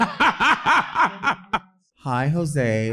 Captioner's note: laughing